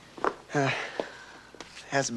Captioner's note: sighing